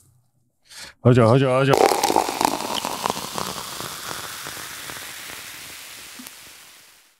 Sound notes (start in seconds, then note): 1.8 applause